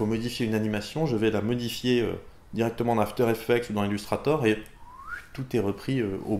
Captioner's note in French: siffle